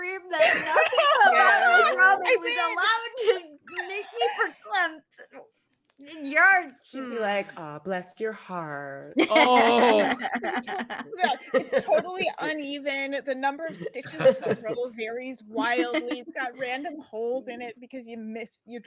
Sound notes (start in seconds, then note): 9.2 all laughing